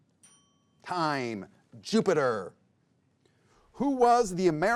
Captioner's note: bell dings